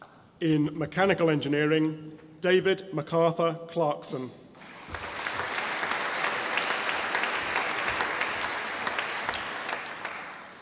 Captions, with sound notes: In Mechanical Engineering David MacArthur Clarkson (audience applauding)